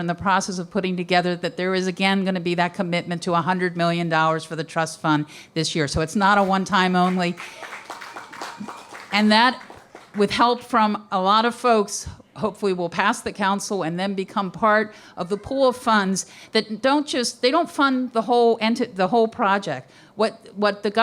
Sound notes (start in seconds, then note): 8.2 applause